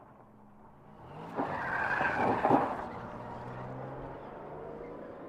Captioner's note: tires screech